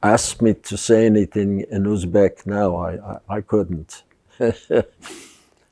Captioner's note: laughing